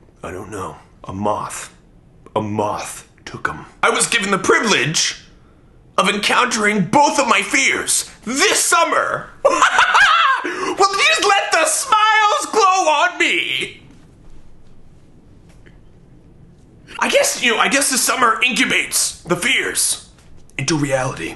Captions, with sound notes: I don't know. A moth, a moth took them. I was given the privilege of encountering both of my fears this summer. (laughs) Would you just let the smiles glow on me? I guess the summer incubates the fears into reality.